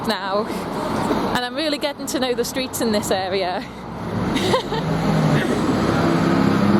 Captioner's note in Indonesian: Tertawa